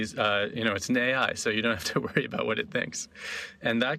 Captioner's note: laughing